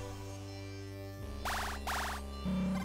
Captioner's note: beeping